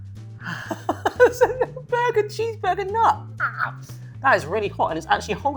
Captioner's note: laughs